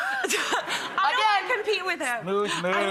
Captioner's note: laughing